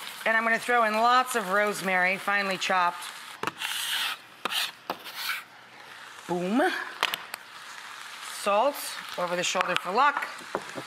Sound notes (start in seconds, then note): 3.5 scrapping